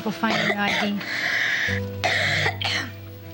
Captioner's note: coughing